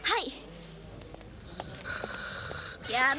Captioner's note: snoring